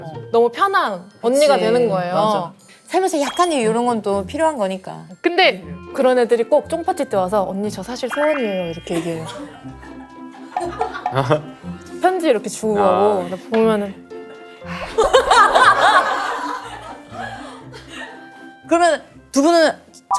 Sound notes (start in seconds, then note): 11.1 laughs; 14.8 sighs dramatically